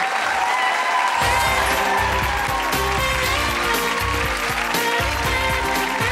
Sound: audience applauding

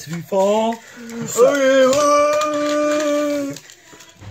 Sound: exclaims

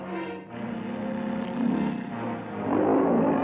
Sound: animals growling

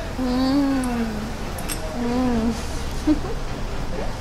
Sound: moaning

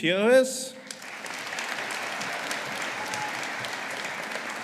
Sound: audience applauding

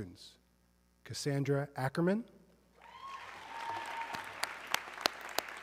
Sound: audience cheering

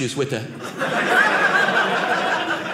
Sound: audience laughing

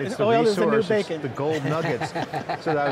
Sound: laughing

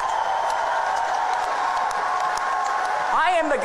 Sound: audience cheering

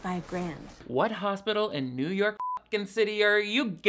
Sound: beep

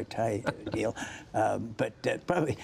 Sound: laughter

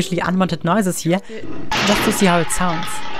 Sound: crashing sound

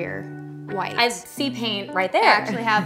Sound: chuckles

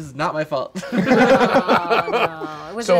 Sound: laughing

